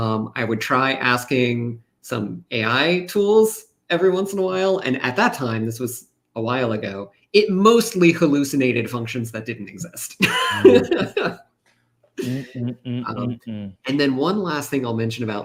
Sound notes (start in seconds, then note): 10.2 laughs